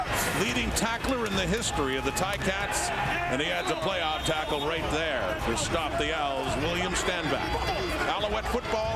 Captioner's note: crowd Noise